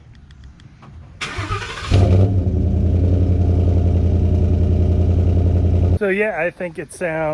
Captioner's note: truck rumbling